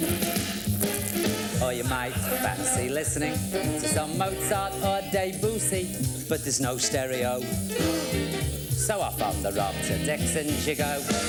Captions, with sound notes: Or you might fancy listening to some Mozart of Debussy, but there's no stereo [Gasps] so off on the rob, to Dixon's you go,